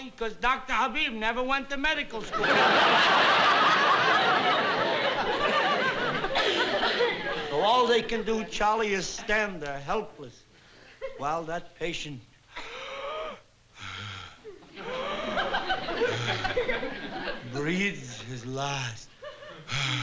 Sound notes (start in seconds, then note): 13.7 gasps